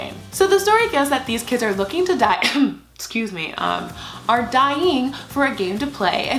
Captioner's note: cough